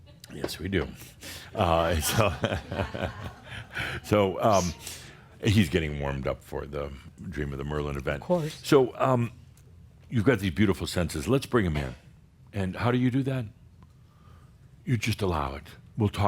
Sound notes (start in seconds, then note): 1.5 Adamus chuckles